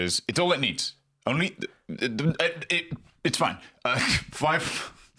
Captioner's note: stammers